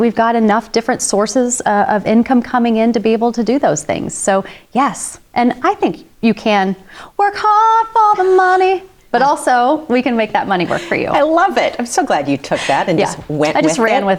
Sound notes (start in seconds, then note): 8.7 laughs